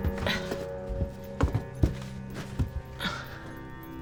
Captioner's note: Claire grunts; suspenseful music